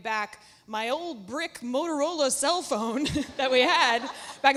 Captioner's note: laughs